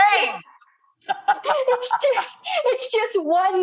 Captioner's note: laughs